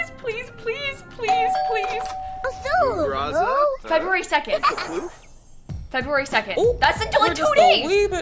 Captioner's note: doorbell